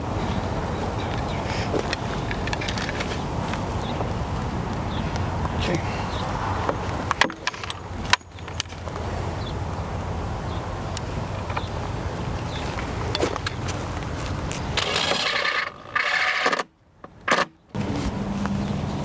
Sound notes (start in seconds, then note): 14.8 drilling